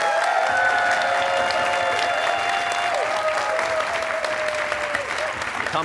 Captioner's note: cheers and applause